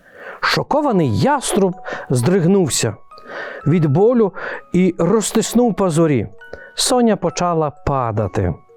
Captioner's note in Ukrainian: сопіння